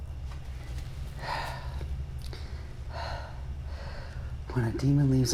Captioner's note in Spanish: Jonathan respirando pesadamente